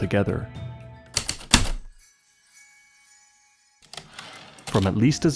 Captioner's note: typewriter keystrokes then return slide